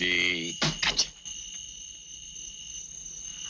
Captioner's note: fly swatter slaps